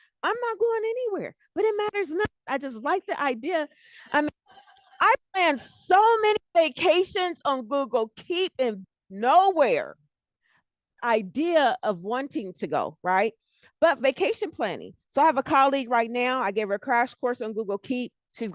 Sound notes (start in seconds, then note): 4.4 laughter